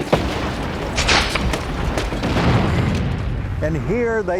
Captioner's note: guns roaring